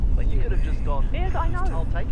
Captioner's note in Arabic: امرأة في الراديو; رجل على الراديو